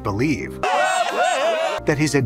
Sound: crowd cheering

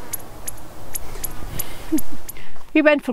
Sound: sound of bird chirping; laughs

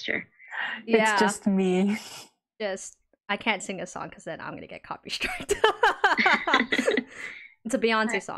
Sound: laughs

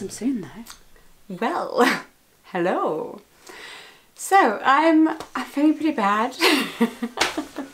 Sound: laughs

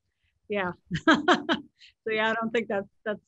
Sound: laughs

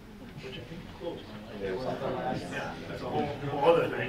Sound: murmuring

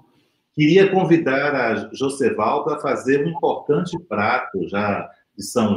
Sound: speaks portuguese

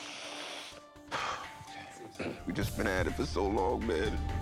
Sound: sniffs; sighs

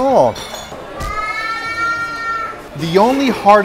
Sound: crying baby

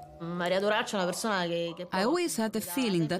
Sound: speaking in Italian

